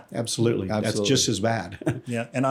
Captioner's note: laughs